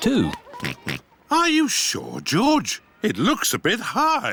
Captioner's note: oinks